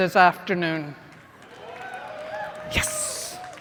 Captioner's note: cheers